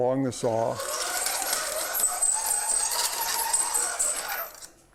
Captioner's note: metal-on-metal scraping